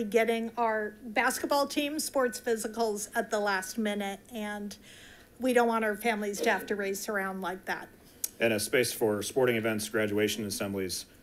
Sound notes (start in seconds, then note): none